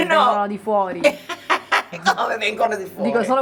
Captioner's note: laughs